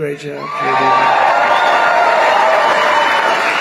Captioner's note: applause